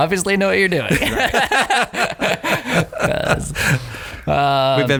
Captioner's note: laughing